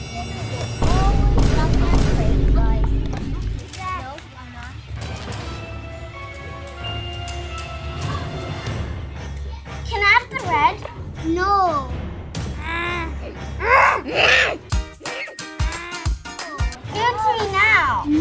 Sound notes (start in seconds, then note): 12.5 grunting; 15.0 upbeat music